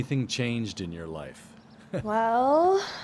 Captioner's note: chuckles